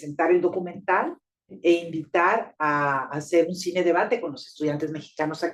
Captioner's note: speaking Spanish